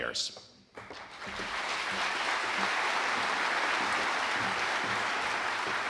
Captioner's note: audience applauding